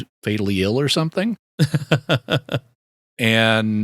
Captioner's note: laughing